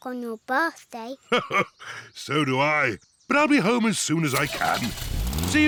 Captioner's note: chuckles